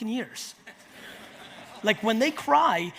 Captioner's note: audience laughs